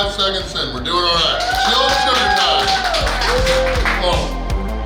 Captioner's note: cheering & Clapping